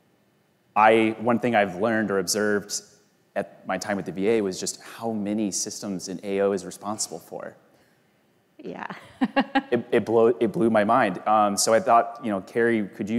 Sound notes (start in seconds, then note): 8.9 laughs